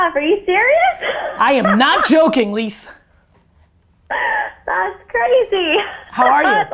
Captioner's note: laughs